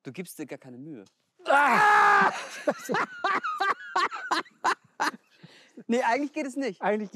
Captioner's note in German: beide lachen